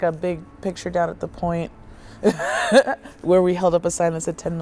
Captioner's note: laughs